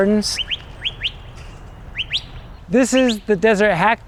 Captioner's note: birds chirping